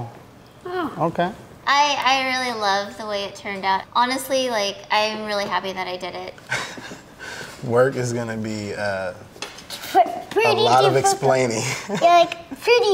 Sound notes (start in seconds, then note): 6.5 chuckling